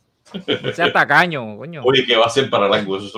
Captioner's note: laughs